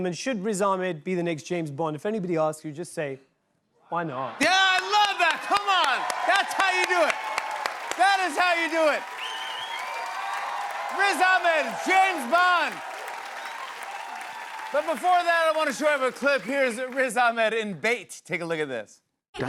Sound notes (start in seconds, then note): 9.4 cheers and applause; 13.1 applause